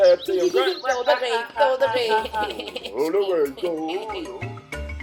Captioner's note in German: alle lachen zustimmend